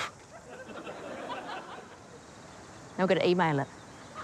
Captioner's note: audience laughs